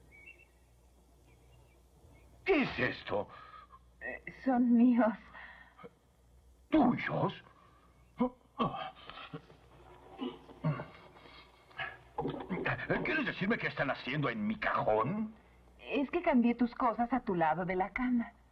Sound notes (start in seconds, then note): 9.8 grunts